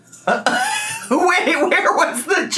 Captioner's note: laughs